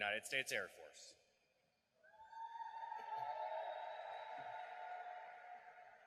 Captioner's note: cheering and applause